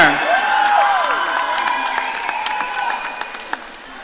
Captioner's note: audience cheering